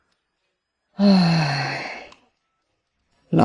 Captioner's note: sigh